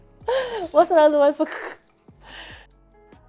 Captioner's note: imitates crackling; soft upbeat music